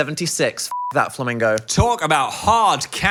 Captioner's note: beep